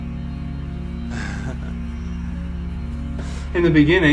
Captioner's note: laughs